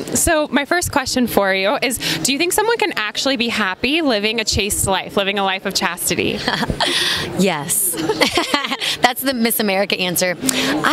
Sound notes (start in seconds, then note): 7.9 laughs